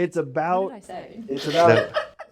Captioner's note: laughter